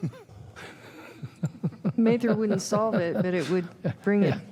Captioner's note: laughter